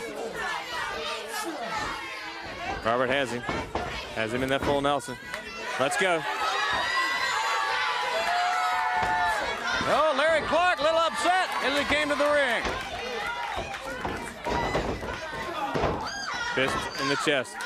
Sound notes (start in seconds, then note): 5.7 crowd cheering